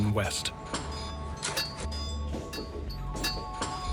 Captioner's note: metal clanging